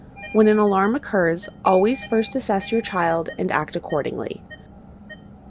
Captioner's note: machine Beeping